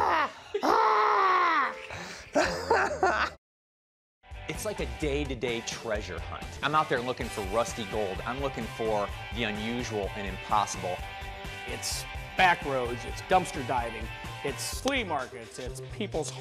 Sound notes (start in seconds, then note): 1.6 laughs